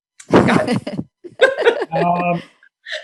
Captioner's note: laughs